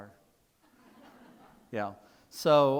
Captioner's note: people laughing